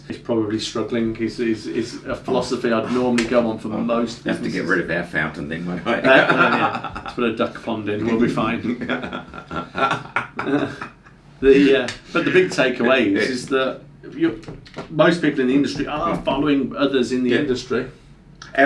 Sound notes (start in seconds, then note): 5.9 both laughing; 8.4 continues laughing